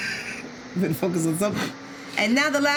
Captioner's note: laughing